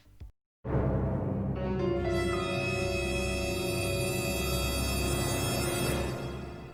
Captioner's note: dramatic screech